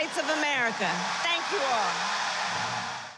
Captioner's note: applause